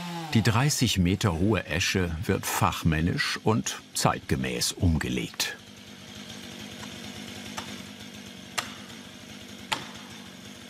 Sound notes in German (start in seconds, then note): 6.2 Motorrattern